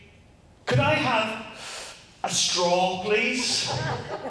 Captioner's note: makes sucking sound